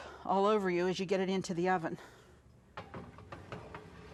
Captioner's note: metals clanging